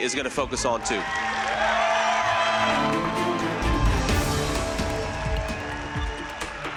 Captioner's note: dramatic music; audience cheering